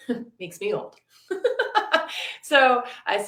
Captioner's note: laughing